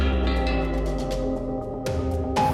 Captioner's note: beeping